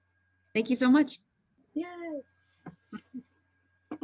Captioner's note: chuckles